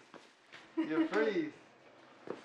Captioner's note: laughter